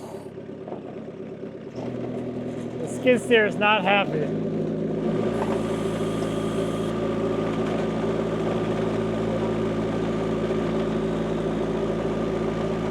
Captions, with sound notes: The skid steer is not happy. (vehicle rumbling)